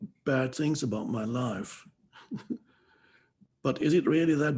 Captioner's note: chuckles